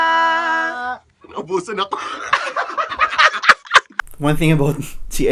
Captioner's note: laughing